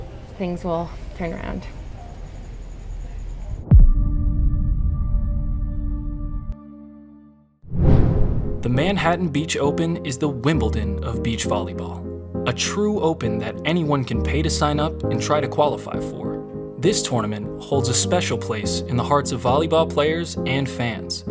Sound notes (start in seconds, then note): 3.7 audio hit; 7.7 dramatic music